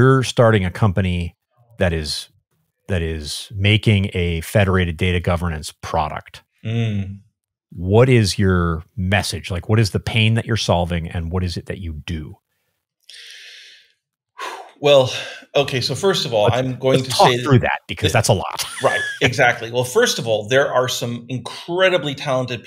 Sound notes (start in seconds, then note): 13.0 exhales; 16.4 laughing